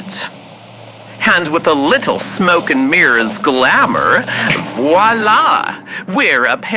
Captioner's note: snap, static sounds vanish